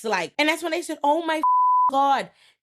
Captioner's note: beep